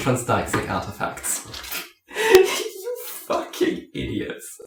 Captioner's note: laughs